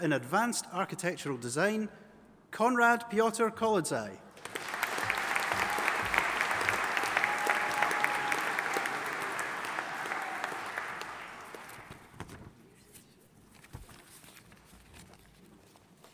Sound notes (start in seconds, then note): 4.4 audience applauding